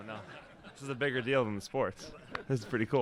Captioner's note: laughter